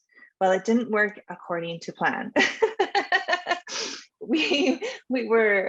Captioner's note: laughing